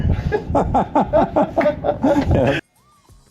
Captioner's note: everyone laughs